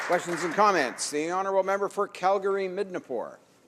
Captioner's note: applause